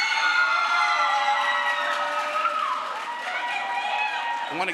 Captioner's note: crowd screams